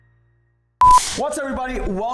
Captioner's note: beep